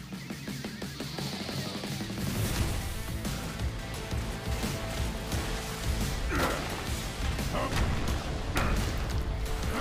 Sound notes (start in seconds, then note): 0.2 epic music; 6.3 grunting